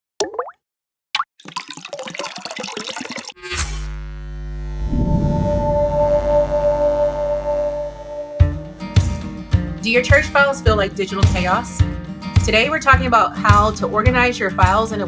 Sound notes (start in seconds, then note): 1.3 liquid pours; 1.4 liquid drips; 3.4 electricity buzzes; 5.4 bright music; 8.7 upbeat music